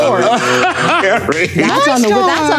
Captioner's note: Colman laughing